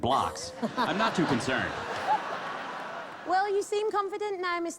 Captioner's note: laughter